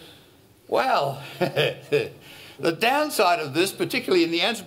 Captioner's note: laughs